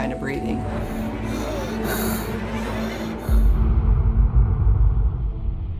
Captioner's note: choked breathing sounds